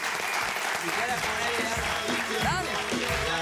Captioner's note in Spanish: Aplausos